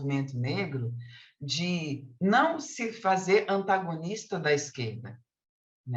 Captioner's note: continues speaking in Portuguese